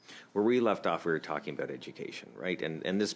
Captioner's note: speaking French